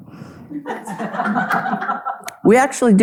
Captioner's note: audience laughing